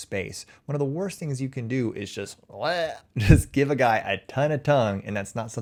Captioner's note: chuckles